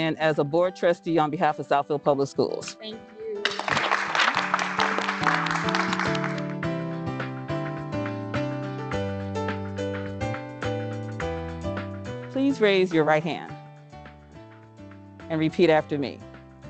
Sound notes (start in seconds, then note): 3.4 applause; 5.5 upbeat music